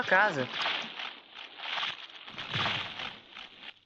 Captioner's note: tree creaking